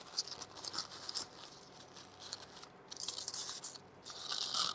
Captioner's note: ribbon rustling